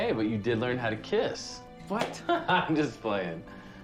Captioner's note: chuckles